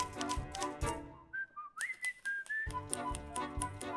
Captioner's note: rhythmic typing; whistles to music; rhythmic typing